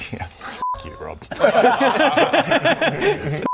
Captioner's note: tormented laughs